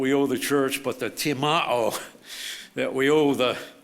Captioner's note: speaks foreign language